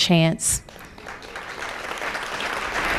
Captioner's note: applause